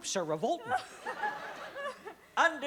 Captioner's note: laughter